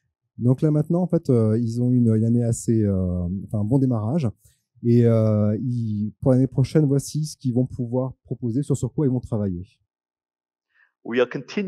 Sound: translating into french

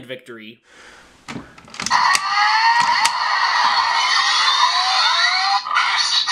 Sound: engine revs

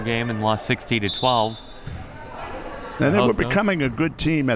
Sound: whistle

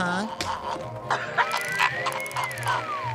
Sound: coughing

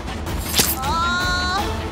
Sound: screams

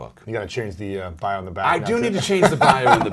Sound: laughs

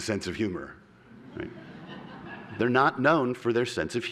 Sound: laughter

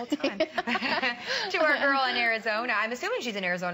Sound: laughter

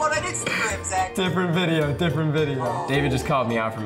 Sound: laughs

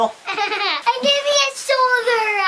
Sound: laughing

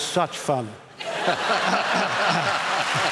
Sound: laughter

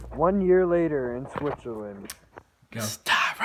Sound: none

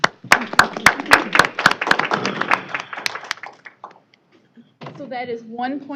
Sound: applause

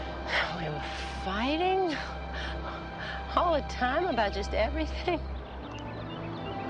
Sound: sighs

